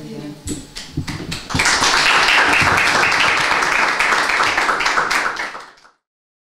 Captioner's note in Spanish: aplausos